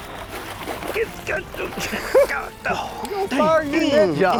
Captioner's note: grunting